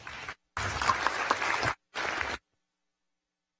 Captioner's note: applause